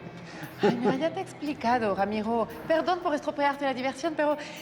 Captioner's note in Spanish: Risas